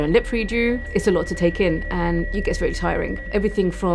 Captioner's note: high-pitched ringing throughout